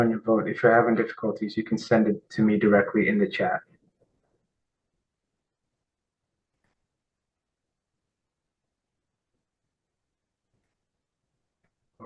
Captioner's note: pause